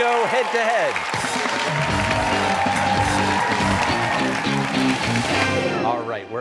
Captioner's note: cheers and applause